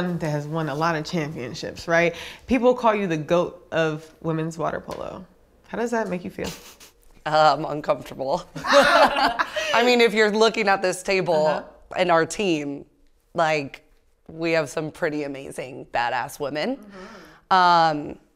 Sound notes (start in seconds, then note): 8.6 everyone chuckles